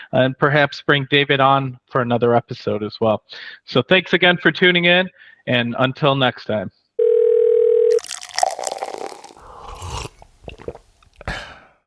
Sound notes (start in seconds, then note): 7.0 phone ringing; 7.9 liquid pouring; 9.8 person slurping